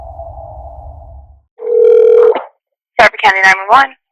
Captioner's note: dial tone